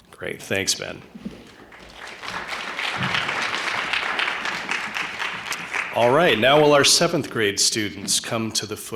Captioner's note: applause